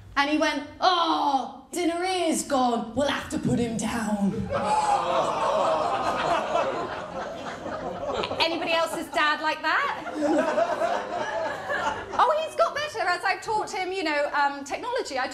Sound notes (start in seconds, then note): 4.5 audience: aw!; 9.7 laughter